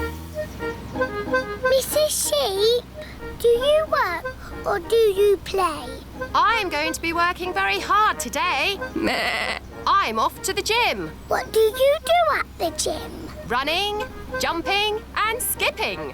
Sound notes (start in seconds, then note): 9.0 bleats